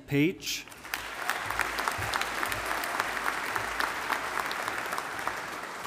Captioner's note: audience applauding